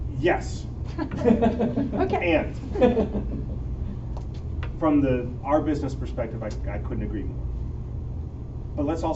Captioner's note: chuckle; laughter